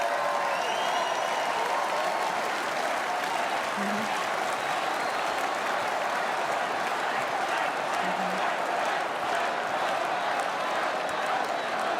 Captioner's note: cheers and applause